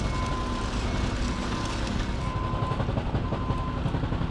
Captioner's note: tractor beeping